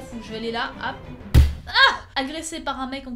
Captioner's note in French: Boum